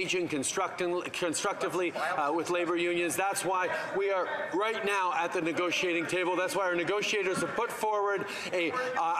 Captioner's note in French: voix de l'interprète